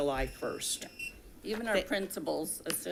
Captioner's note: device buzzing